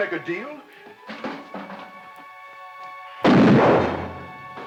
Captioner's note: bucket rattles; gun fires